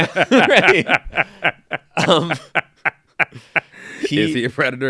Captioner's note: laughing